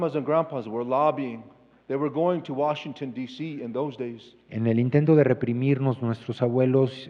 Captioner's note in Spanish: Expositor habla en inglés